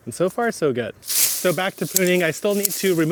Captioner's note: foliage rustles